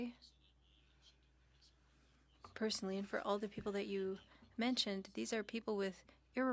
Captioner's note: speaking French